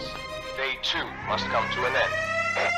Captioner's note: music swells; music rests, siren; siren